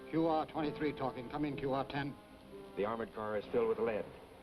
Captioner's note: none